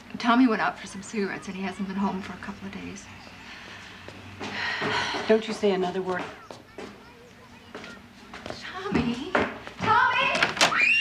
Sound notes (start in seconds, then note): 4.3 patsy sighs